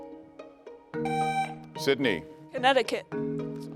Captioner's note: tone sounds